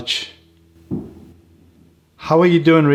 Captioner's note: bangine noise